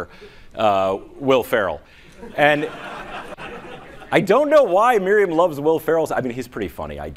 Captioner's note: laughing